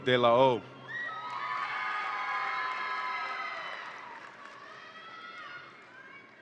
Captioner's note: audience applauds and cheers